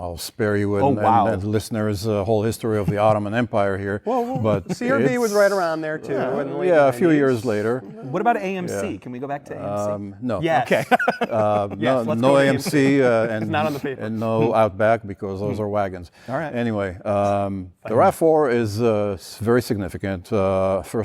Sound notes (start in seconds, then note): 10.7 laughter